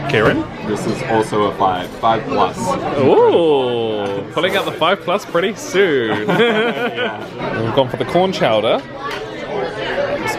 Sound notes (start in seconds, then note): 5.8 they laugh